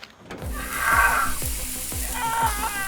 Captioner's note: screams